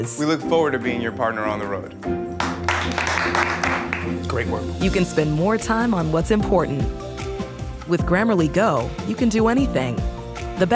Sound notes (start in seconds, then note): 2.4 clapping